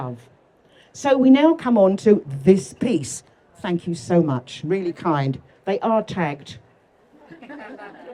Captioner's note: laughter